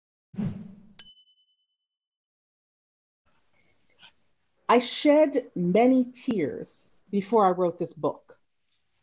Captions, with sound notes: (bell rings) - I shed many tears before I wrote this book.